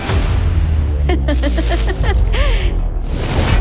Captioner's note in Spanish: Risas